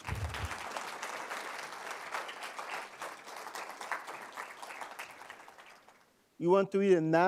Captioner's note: applause